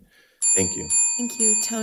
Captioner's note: bell dinging